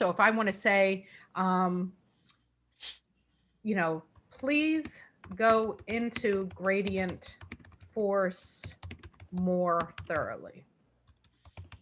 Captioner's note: typing; typing stops